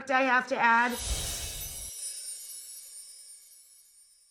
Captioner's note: chimes ring